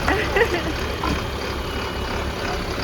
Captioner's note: engine chugging